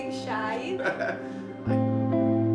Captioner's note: laughs